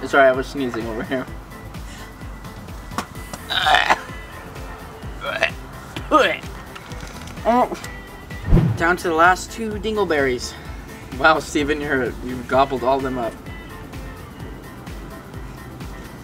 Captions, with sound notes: Sorry I was sneezing over here. (gagging) - Down to the last two dingle berries. - Wow Steven, you've gobbled all of them up.